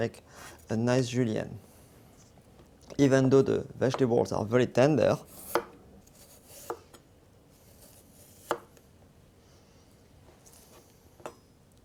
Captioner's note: cutting sounds